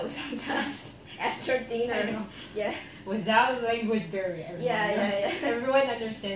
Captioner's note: laugh